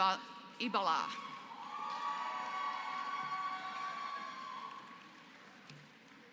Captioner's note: applause